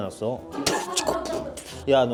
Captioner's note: some strange beatbox noises